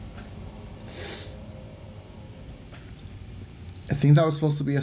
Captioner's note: sharp inhale of disbelief and despair